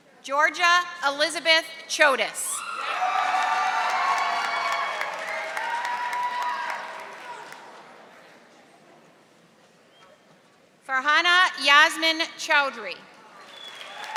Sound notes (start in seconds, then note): 2.6 audience applauding and cheering